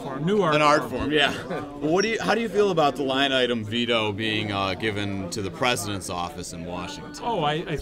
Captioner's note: laughs